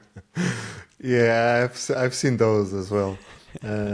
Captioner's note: laughing